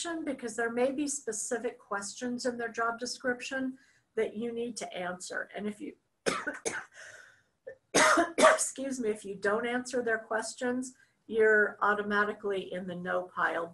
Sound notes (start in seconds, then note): 5.9 coughs